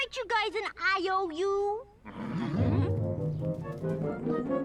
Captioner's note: squirrels grunting